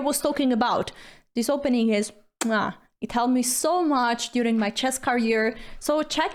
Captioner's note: kiss